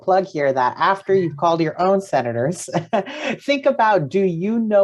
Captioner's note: laughs